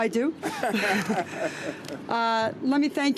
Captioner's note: laughter